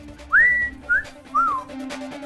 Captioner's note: Whistles